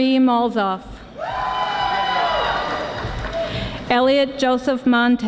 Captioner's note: audience applauding